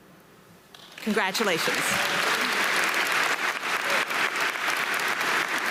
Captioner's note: audience applauding